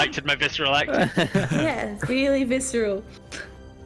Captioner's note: laughs